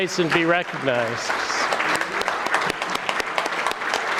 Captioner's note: audience clapping